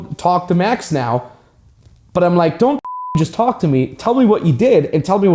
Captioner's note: beep